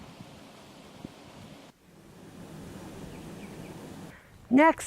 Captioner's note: sound of flowing water